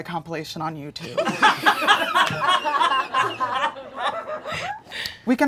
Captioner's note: audience laughing